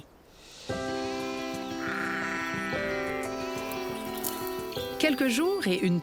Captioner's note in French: bêlements